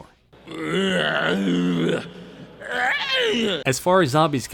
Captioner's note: zombie noises